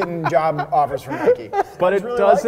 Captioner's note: continues laughing